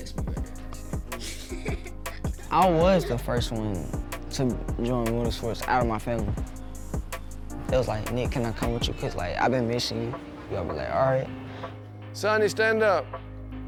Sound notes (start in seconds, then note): 1.1 chuckling